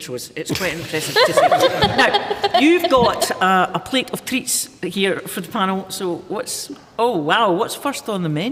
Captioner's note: laughter